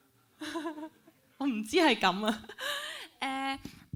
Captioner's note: laughs